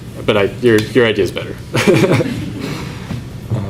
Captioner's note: laughs